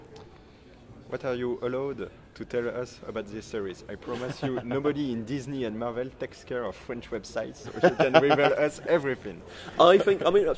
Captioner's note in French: Rire